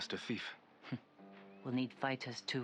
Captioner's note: laugh